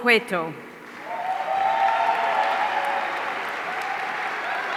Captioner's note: audience cheering